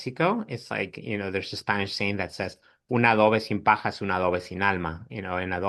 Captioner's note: speaks Spanish